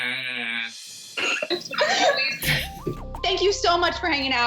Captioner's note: laughs